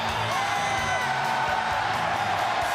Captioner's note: crowd cheering; crowd chatter